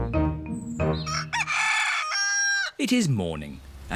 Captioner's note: cockerel crows